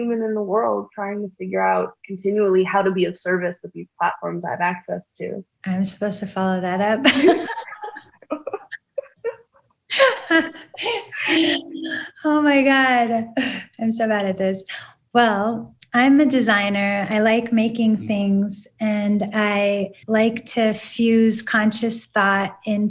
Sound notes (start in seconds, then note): 7.1 laughs; 8.6 Yara laughs